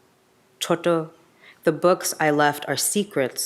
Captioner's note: speaks in a foreign language